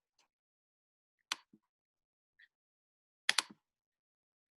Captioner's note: keyboard typing